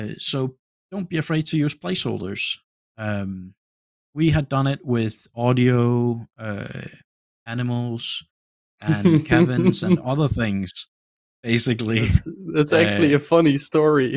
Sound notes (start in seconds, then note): 8.8 laughs